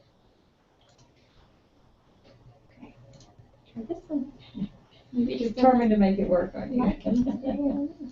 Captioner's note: laugh